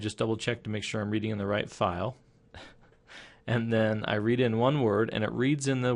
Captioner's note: chuckling